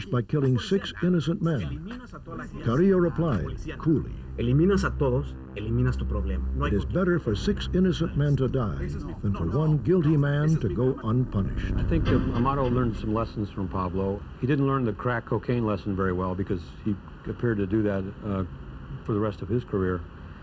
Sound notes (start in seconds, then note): 4.5 speaks Spanish